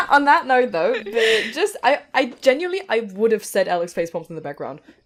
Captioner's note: laughter